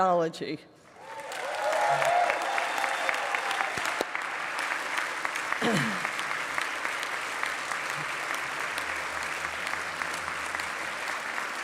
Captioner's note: applause